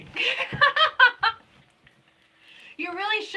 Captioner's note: laughing